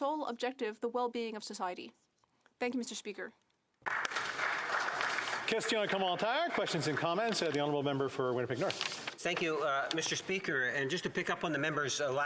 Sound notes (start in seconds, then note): 7.0 some Applause